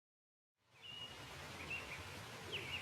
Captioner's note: birds singing